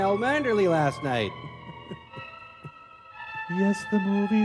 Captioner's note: chuckling